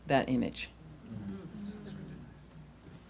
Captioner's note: audience murmuring